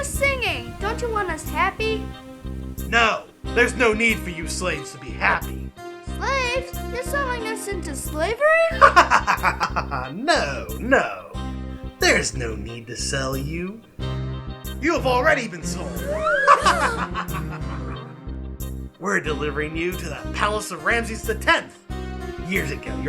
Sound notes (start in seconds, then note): 8.5 צוחק; 16.0 צוחק; 16.8 מתנשף